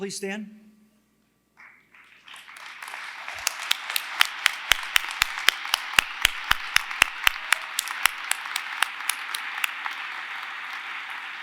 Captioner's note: applause